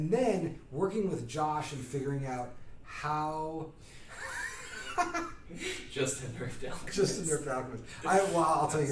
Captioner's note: laughing